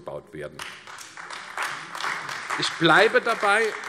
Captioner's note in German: Beifall AfD